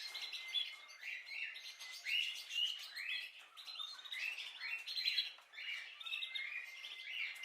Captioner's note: birds singing